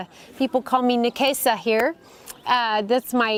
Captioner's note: swahili